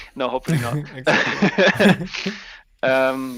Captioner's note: both laughing